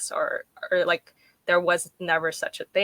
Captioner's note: none